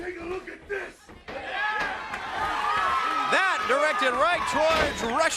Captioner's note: crowd cheering